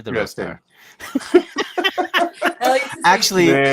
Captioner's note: laughs